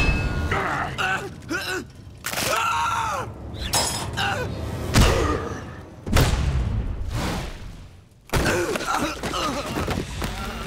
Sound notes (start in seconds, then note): 0.3 grunting; 2.4 screaming; 3.8 grunting; 7.9 grunting